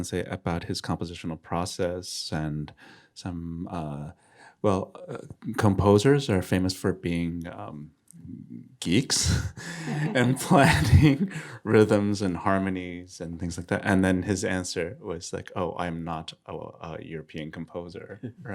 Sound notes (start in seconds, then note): 9.2 chuckling